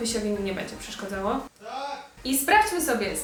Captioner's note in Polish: krzyk